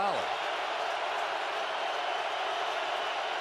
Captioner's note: crowd cheering